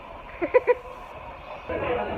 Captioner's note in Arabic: يضحك